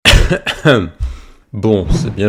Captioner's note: black Plague Cough.mp3